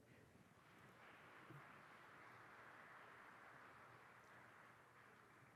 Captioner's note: audience clapping